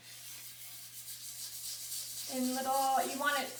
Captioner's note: drywall screen scraping